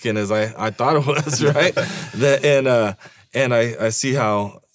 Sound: laughing

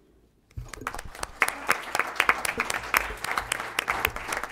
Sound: applause

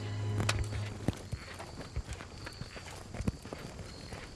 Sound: footsteps

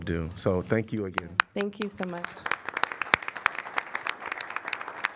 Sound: applause

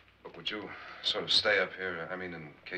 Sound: none

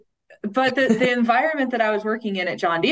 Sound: laughing

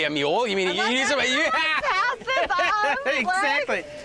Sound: laughing

